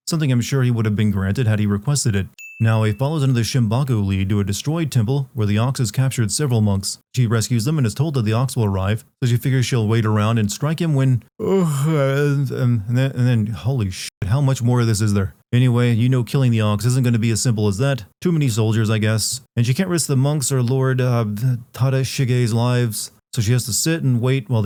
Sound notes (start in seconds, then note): 11.4 yawn